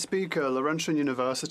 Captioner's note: speaking French